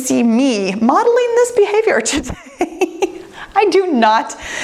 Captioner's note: laughs